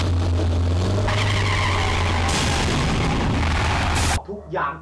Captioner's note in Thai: เสียงเบรก; เสียงรถยนต์